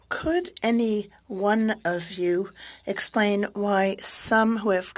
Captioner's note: speaking French